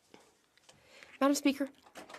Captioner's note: speaking French